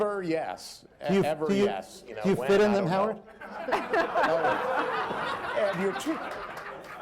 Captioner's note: laughter